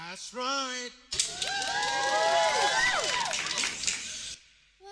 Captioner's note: cheering